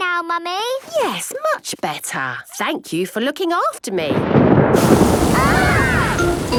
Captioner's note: thunder